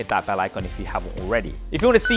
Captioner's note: bell chiming